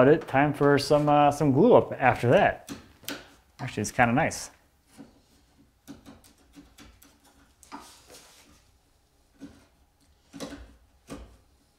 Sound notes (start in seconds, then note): 5.8 chisel rattles